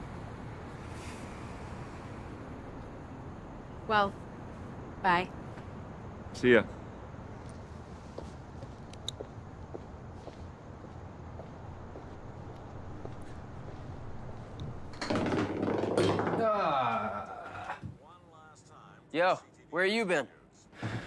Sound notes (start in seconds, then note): 14.2 golf ball rolling across floor; 16.6 Tony groans; 18.0 news program plays on TV